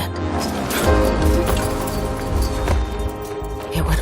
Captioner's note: fence rattling